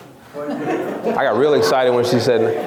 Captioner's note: laughs